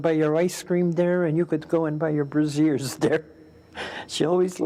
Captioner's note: laughs